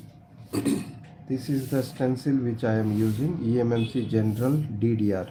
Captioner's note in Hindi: गला साफ़ करने की आवाज़